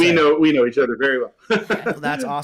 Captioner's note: laughs